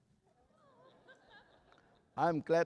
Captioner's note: laughter